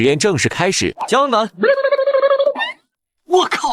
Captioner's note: slurp